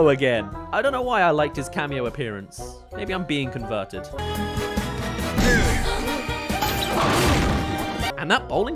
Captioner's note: whack* *Bowling